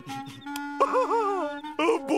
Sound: laughing

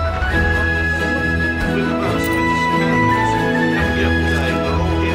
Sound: general market noise

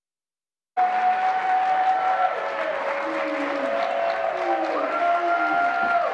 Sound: audience clapping and cheering

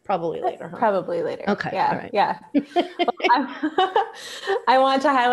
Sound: laughs

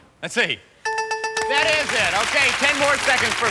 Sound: bell rings

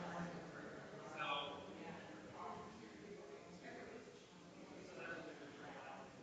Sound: people chattering distantly continues

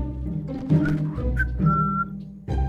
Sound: whistle

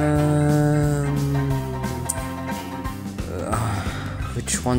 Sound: tsk

